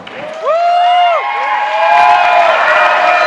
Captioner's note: cheers